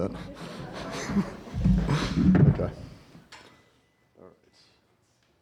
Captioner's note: audience laughter